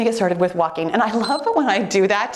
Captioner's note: timer beeps